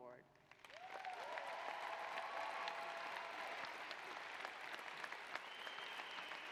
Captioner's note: applause